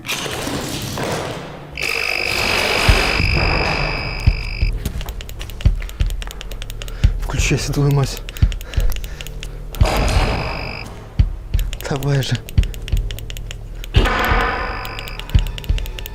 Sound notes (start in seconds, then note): 1.8 doll sound